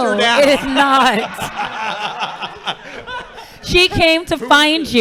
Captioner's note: laughing